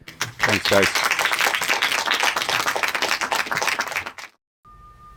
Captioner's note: audience applauding